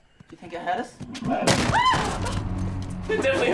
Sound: Cooper screams

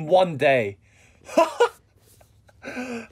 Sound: laughs uncontrollably

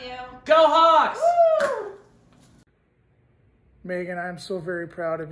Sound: popping

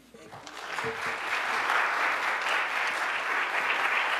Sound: audience applauds

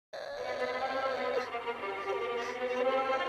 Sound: groaning

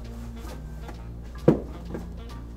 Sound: pumpkins thudding

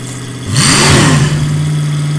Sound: engine revs

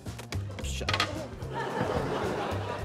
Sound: laughter

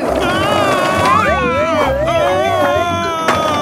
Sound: shouting

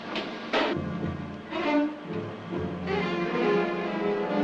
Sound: train whistle blowing

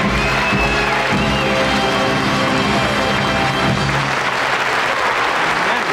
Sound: audience applauds

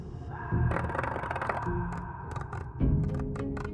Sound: scratching

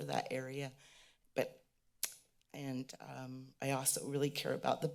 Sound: click of the tongue

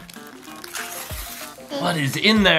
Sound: paper rips

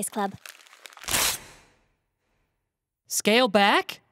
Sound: paper tearing

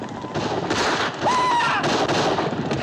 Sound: soldier screams

